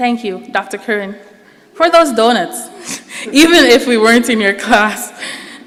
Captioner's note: laughs